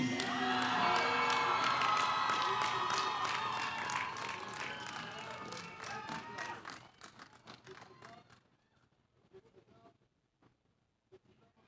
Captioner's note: cheers